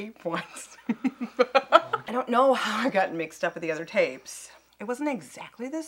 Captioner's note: laughs